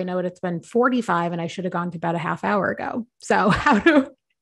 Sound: laughs

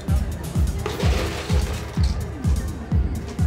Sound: ice scraping

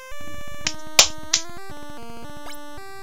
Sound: clap clap clap

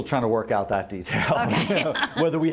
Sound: laughing

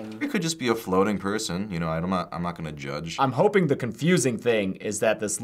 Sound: none

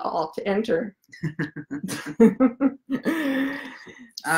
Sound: laughs

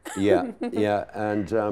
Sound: laughing

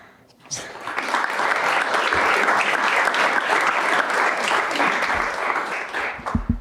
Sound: applause

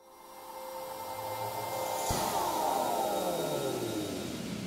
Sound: soft swooshing sound

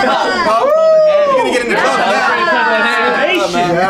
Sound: all cheering

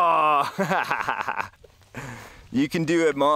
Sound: laughing

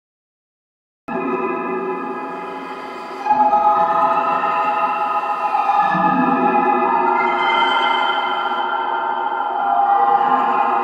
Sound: sound of alien world

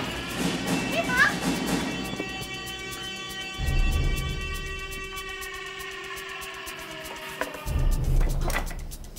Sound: the siren screaming

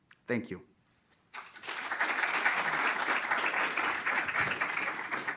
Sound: applause

